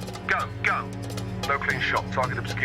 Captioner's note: man #2 over radio